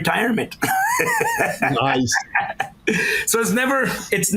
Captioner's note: laughs